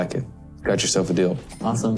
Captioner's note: cash register ringing